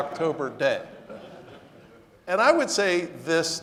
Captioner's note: audience laughing